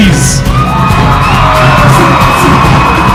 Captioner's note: cheering